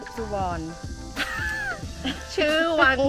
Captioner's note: laughs